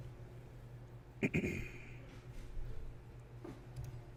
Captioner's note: clears throat